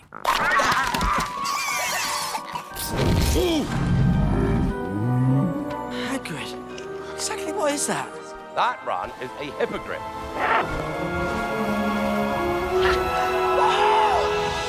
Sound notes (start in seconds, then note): 0.1 growling; 1.3 yelping and gibbering; 4.4 grunting